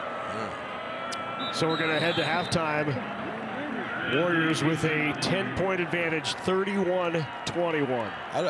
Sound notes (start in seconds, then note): 1.2 referee blows whistle